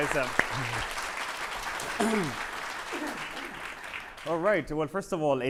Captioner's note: audience applauding